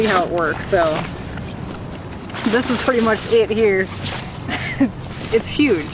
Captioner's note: laughing